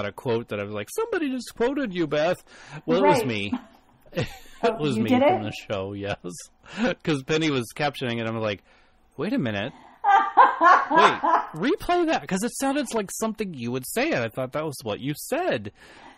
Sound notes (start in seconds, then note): 4.1 DJ laughs; 10.0 laughs